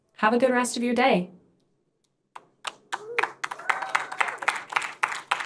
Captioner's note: applause